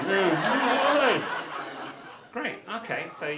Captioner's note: audience laughter